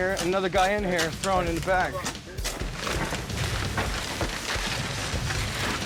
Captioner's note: garbage rustling